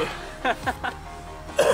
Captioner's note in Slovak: smiech; kašeľ a iné podiv... ok ok ok